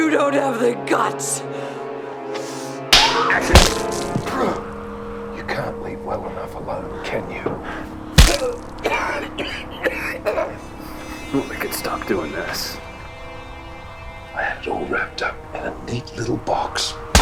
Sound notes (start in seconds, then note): 2.9 slapping; 2.9 smacking; 8.1 smacking; 8.2 coughing